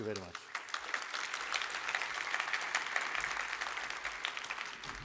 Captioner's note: applause